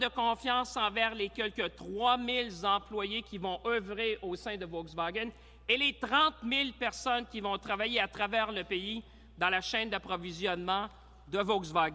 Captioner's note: speaking in french